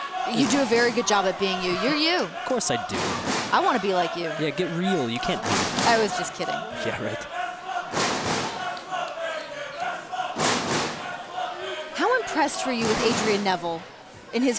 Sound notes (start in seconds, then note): 8.3 crowd chanting "Let's go, Van Dam, let's go"